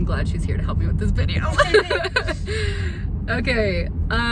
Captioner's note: laughs